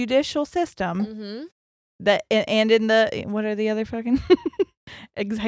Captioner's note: chuckles